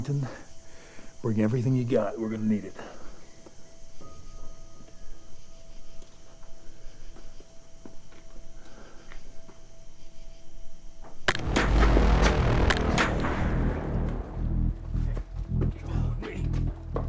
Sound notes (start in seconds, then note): 3.6 eerie piano music; 11.3 shots blasting